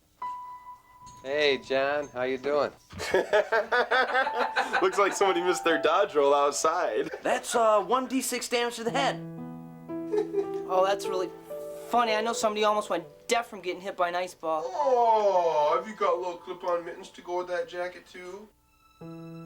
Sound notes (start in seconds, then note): 2.9 group laughs